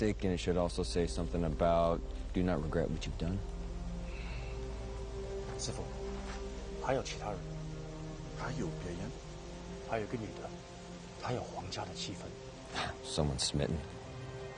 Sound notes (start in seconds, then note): 5.6 speaking Chinese; 7.8 convering in Chinese